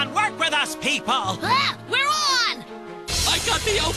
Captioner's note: exclaims